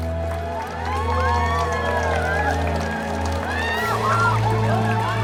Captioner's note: crowd cheering